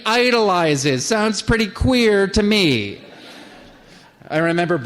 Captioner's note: laughter